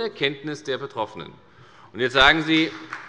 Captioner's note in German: Beifall bei der FDP